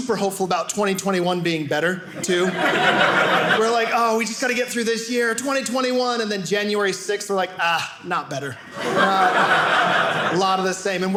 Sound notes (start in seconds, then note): 2.2 audience laughing